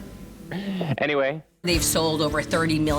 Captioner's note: gasps